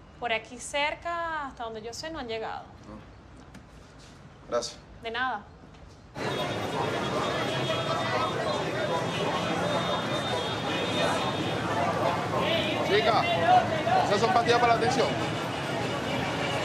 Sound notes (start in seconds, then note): 7.5 heavy street bustle